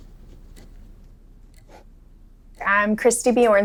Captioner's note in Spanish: Tic-tac de reloj; Bolígrafo escribiendo